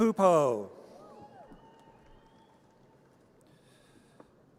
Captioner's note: audience cheers